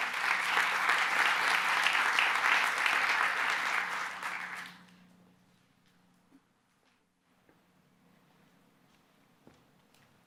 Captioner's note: applause